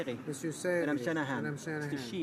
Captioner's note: speaking in french